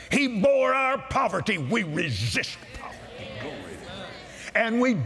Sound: audience Agrees

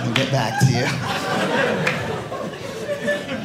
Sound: audience laughing

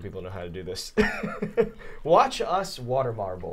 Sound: chuckling

